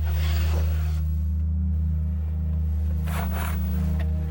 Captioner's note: static playing